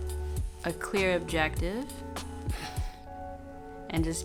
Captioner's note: chuckles